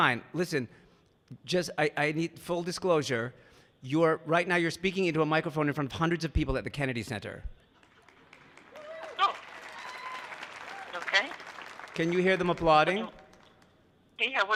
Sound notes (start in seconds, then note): 7.7 audience clapping